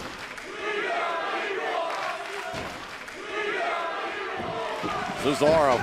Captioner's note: crowd cheering